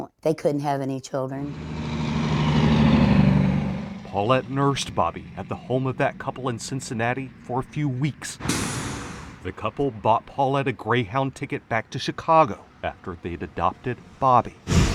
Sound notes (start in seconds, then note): 1.9 truck engine humming; 8.6 truck hissing; 14.7 truck whooshing